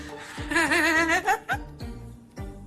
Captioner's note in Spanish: Carcajada contenida